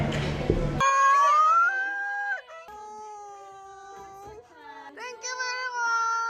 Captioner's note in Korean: 갑자기 들려온 노크 소리!